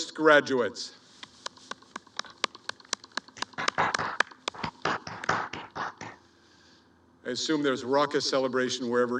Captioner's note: clapping